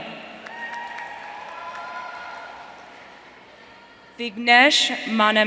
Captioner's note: audience cheering